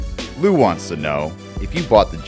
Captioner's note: voiceover